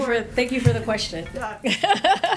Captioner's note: laughs